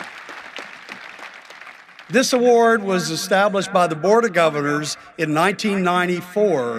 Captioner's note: applause